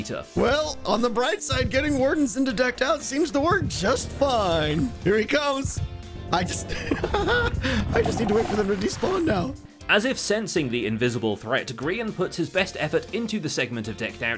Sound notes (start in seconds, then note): 6.4 nervous laugh; 6.5 Warden grumbles